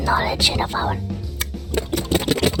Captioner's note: Yúlia clicks mouth